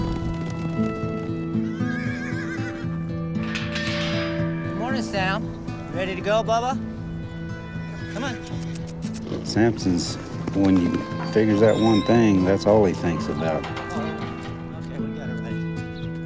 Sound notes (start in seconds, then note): 0.6 horse nearby whinnies; 8.4 clicking tongue